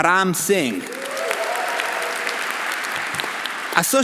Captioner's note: audience applauding; audience cheering